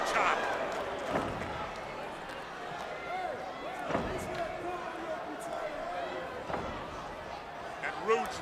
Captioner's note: crowd chatter